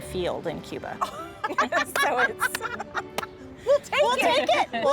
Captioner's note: laughs